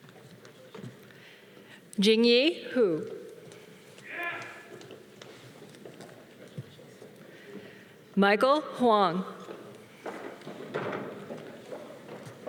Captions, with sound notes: Jeanie Woo. (man cheering) Michael Huong. (footsteps tapping)